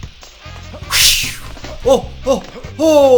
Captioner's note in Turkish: Uçak Geçti